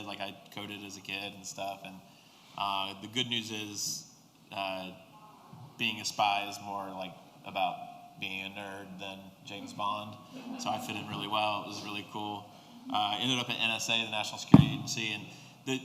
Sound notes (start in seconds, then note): 9.5 laughter